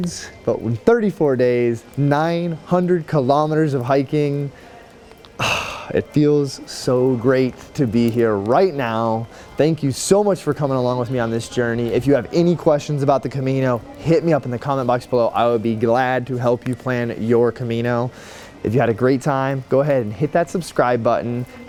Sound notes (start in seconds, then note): 5.4 sigh